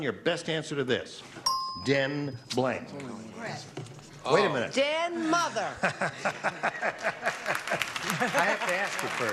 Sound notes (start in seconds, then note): 1.4 beeping; 7.9 laughing